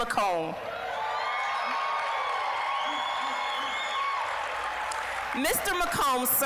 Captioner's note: applause, cheering